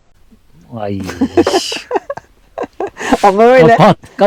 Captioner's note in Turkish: kahkaha